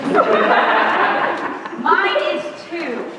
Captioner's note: laughter